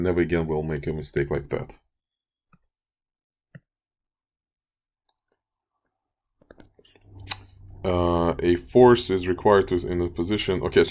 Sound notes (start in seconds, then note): 1.9 clicking Sounds